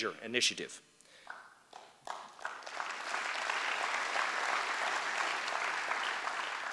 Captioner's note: applause